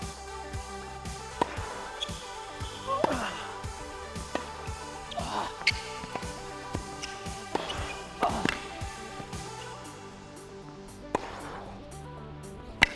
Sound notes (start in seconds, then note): 5.3 shoes squeaking; 8.7 racket hits and heavy breaths